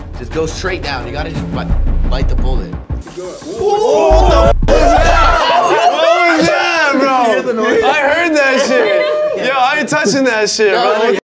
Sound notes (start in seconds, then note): 3.6 lizard hisses; 3.6 men yell